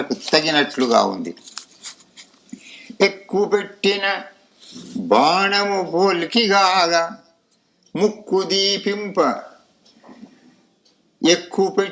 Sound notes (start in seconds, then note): 4.7 snorts